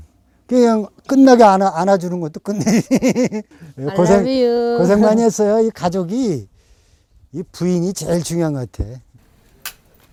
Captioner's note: chuckling